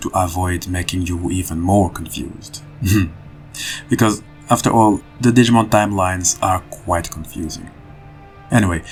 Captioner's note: laughs